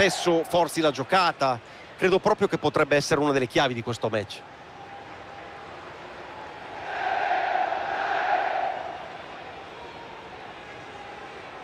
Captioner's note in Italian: Applauso